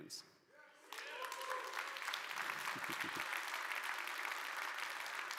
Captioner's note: audience applauds